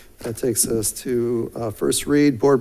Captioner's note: none